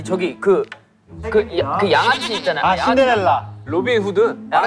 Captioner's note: mispronunciation